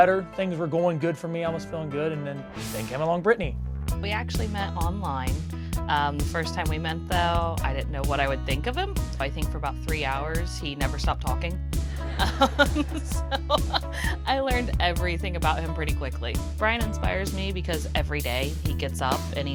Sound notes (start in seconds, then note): 3.8 upbeat music; 11.9 audience laughing; 12.0 laughing